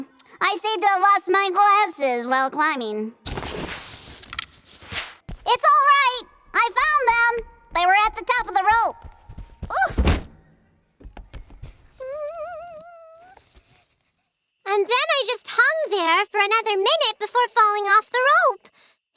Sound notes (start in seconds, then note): 11.9 whimpers